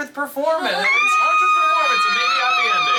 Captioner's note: squealing